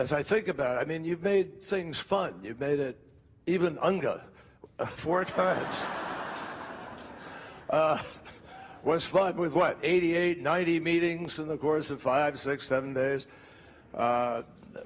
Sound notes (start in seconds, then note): 5.4 laughing